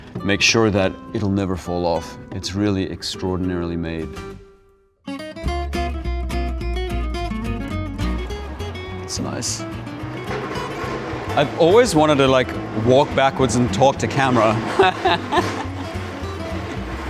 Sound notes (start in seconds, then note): 5.2 lively music; 14.5 laughs